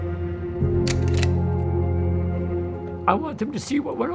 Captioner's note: slide reel clicking